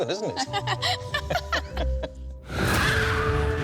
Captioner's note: laughter